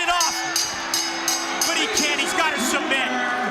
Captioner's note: bell ringing